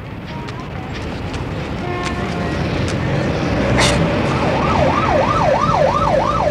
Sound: city sounds

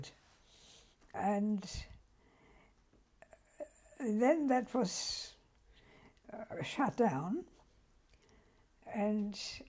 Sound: pauses for 3 seconds

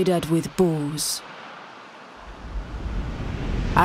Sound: waves crashing

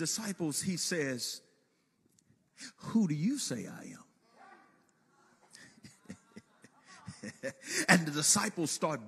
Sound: chuckling

